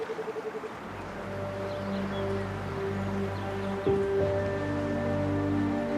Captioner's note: animals calling